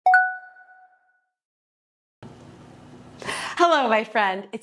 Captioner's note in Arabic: دقات الجرس